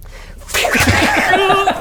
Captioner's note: fwwoosh...thud